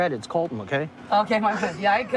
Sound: laughing

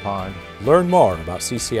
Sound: voiceover

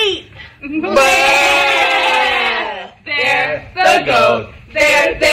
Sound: cast imitate bleating goats in unison

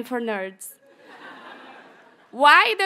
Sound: audience chuckles

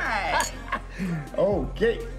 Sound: laughs

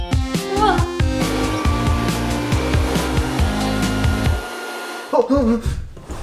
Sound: leaf blower

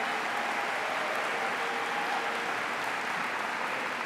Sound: applause

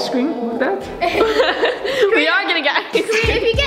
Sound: laughing

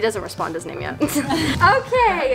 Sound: laughing

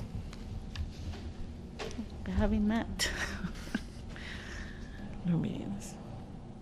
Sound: laughter

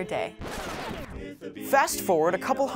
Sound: warbling sound

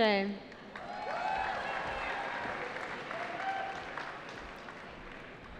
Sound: cheering

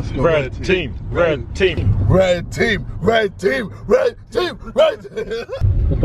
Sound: laughing

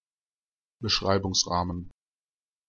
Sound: fast Pronunciation

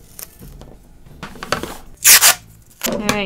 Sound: tape ripping off

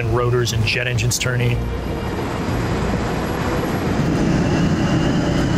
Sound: plane whizzing

